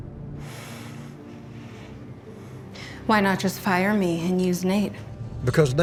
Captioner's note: sighs